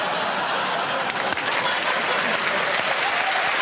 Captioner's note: laughter; applause